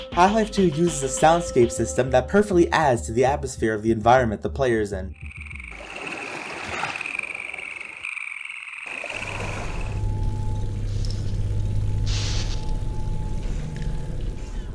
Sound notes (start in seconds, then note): 5.1 creek running + Water animals; 9.3 industrial machinery + Sparking + Water dripping; 14.5 wind howling